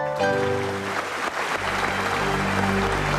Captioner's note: applause